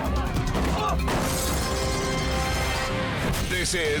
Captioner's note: object thuds